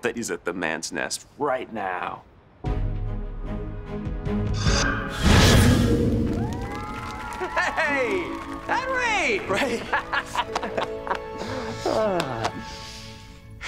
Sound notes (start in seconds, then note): 9.4 laughing; 11.3 sighing